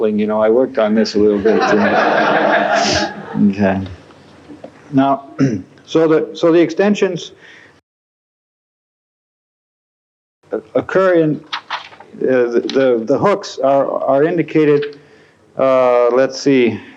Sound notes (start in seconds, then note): 1.3 laughter